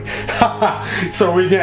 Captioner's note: laughs